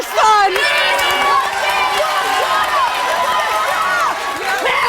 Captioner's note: audience cheering